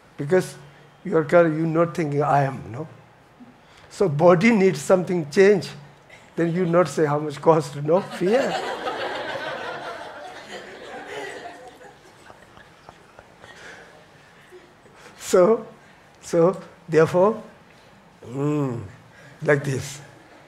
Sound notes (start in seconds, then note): 7.9 audience laughing; 8.0 laughs